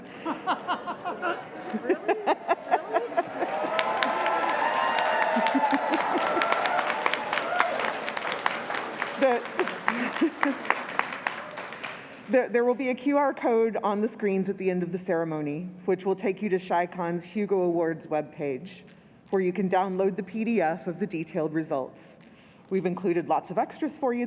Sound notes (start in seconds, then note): 2.4 crowd booing; 5.0 crowd cheering